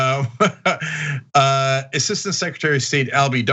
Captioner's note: laugh